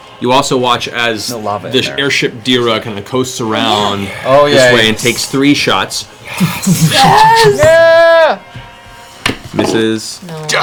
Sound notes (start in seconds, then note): 6.4 cheering